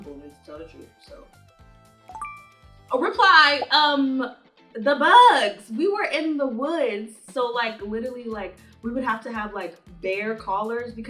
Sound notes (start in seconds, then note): 2.0 notification chiming